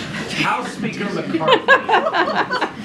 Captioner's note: laughter